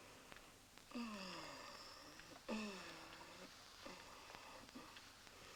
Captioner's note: jasmine moaning